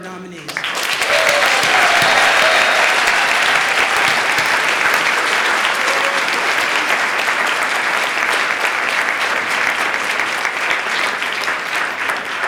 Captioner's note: applause